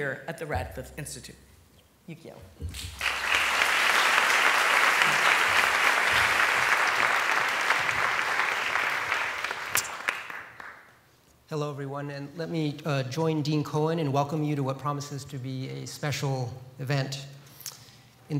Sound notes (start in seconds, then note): 2.7 applause